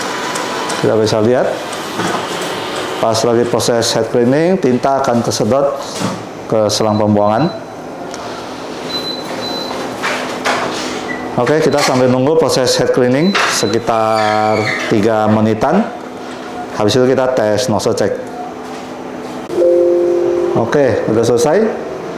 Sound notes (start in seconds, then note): 0.0 printer machine sound; 8.9 beeping sound; 11.2 printer machine sound; 19.5 Windows sound